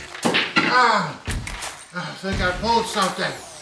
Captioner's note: pool balls clacking; Longbutt groans